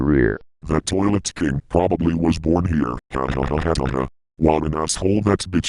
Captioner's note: laugh